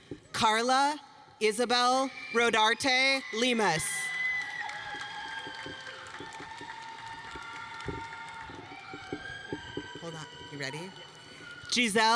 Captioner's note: applause